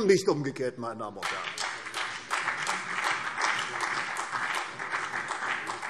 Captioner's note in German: Beifall CDU und BÜNDNIS 90/DIE GRÜNEN